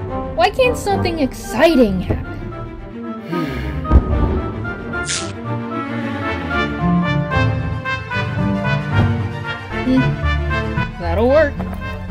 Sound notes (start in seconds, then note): 3.8 cannon goes off in the distance; 5.1 hair gets snipped and flies off; 8.9 thud